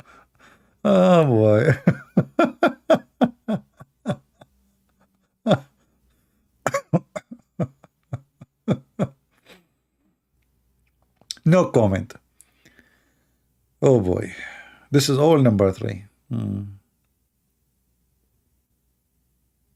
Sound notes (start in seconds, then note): 6.6 Ketawa